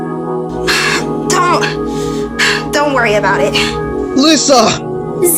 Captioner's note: panting slightly